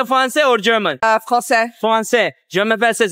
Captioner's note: French